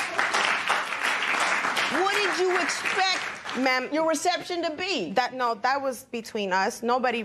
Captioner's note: applause